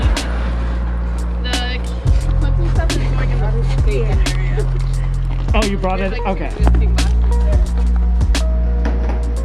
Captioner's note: group chattering about moving supplies